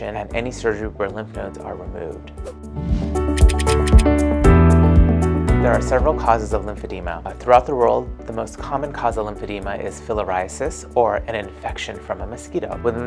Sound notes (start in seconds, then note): 2.5 whooshing; 3.4 typewriter clicking